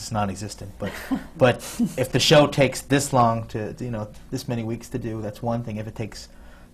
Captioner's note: laughs